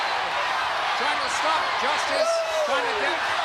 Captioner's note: crowd clamoring